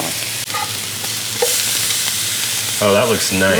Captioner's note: sizzling